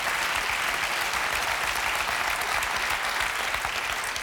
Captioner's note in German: Applaus